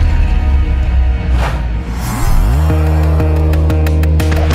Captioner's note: whooshing